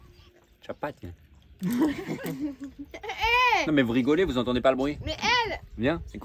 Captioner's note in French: rires